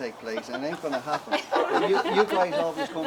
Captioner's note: laughing